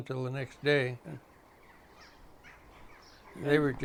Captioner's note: birds chirping